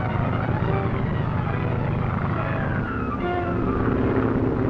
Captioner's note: engine rumbling